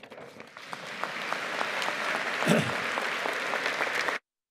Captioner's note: audience applauding